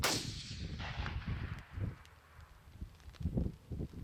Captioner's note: rapid gun shot